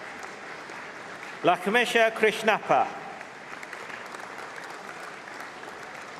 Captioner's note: applause